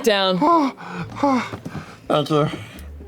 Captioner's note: moans